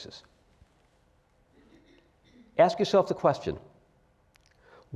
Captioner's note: cough